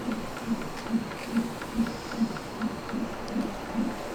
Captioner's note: heartbeat thumping